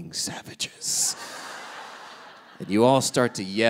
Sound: audience laughing

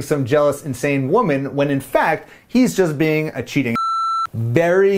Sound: beeps

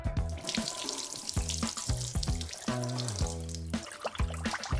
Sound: water splashing

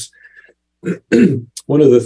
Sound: clears throat

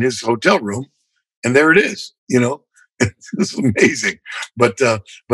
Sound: laughter

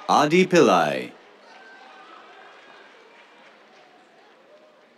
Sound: cheers, applause

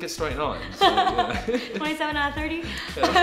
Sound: laughing

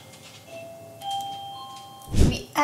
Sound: doorbell chimes

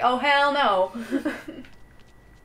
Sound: laughter

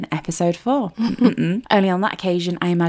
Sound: laughing

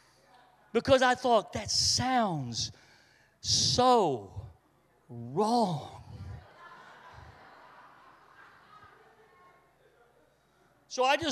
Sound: congregation laughs

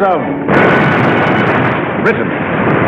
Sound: explosions roaring

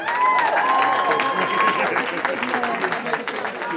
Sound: cheering

